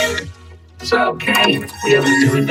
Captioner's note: whimpers